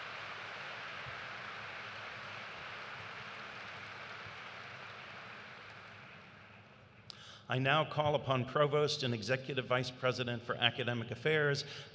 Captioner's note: applause